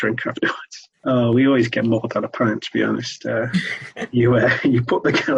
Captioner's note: both laugh